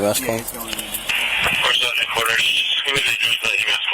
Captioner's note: radio chatter